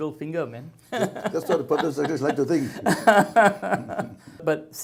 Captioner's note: both laugh